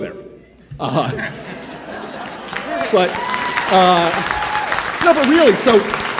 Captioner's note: attendees laughing and cheering